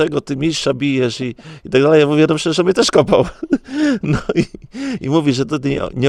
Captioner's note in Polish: śmiech